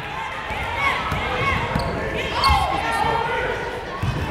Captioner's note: yelling